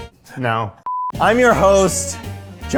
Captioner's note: beeper beeping